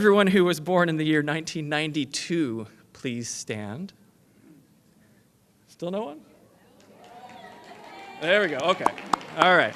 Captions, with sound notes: EVERYONE WHO WAS BORN IN THE YEAR 1992, PLEASE STAND. STILL NO ONE? [ AUDIENCE CHEERING ] THERE WE GO.